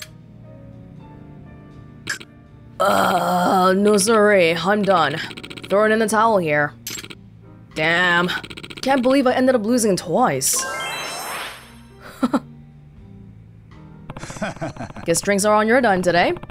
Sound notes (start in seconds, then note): 12.0 chuckles